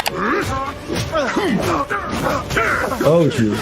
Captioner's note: Mauler clone grunting; feet stomping